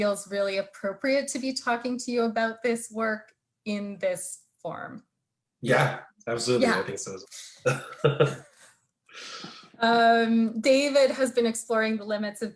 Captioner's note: both laughing